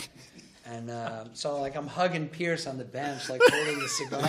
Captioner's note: laughter